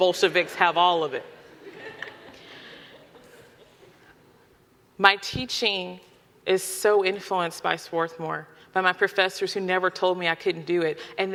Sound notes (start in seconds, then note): 1.2 audience laughing